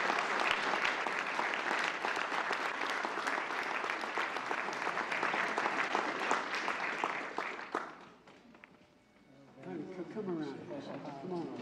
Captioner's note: applause